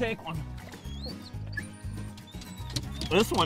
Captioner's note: whining